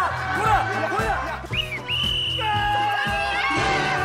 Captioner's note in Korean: 호루라기 소리